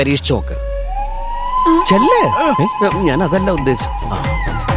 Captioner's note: sarcasm